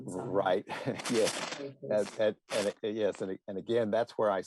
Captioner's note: chuckle